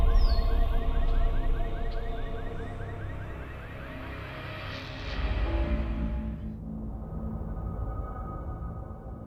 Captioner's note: bird chirps